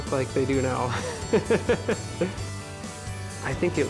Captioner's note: laughs